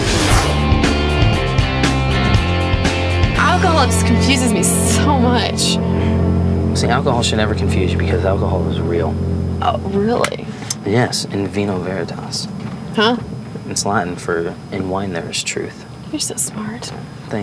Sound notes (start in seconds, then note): 0.3 rock music; 11.3 speaking foreign language